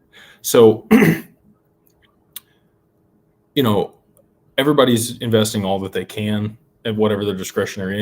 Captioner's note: clears throat